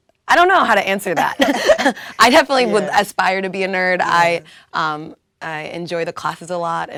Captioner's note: laugh